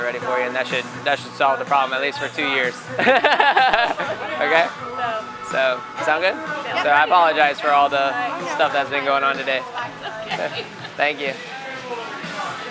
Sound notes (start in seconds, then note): 2.9 laughs; 9.7 laughs